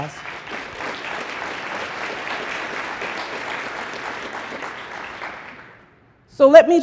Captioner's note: applause